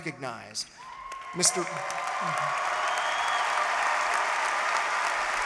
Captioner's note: applause